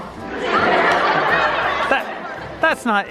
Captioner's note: audience laughter